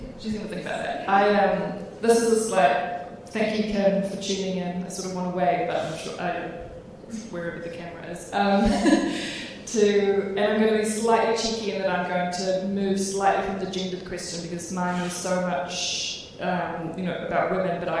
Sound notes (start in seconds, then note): 8.6 chuckles